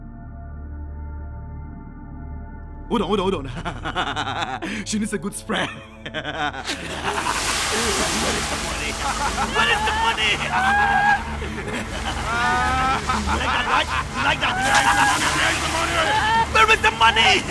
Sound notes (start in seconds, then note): 3.3 laughing; 6.7 water spraying; 10.9 ominous music; 12.0 laughing maniacally